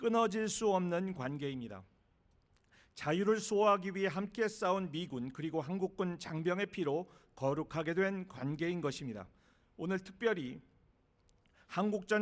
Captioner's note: speaking non-english